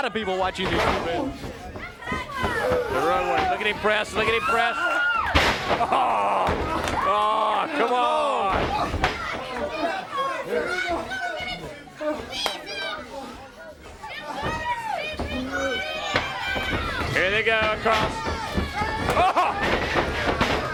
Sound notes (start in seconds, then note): 0.1 crowd chatter; 6.9 crowd chatter